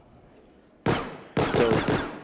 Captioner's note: gunfire